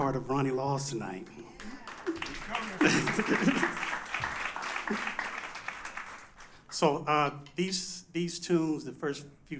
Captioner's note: applause